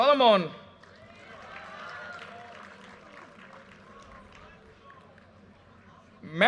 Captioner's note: audience cheers and applause